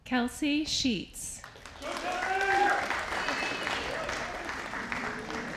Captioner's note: audience applauding